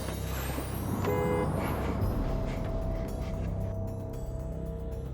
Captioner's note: car horn honks